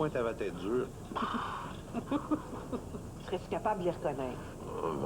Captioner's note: Rires